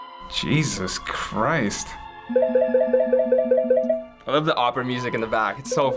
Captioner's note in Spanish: el teléfono suena